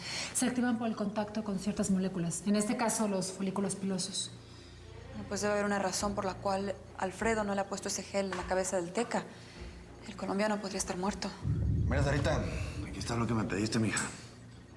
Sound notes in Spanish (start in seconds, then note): none